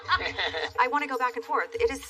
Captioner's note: laughs